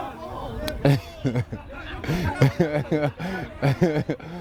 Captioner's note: laughs